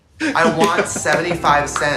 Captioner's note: woman chuckles; claps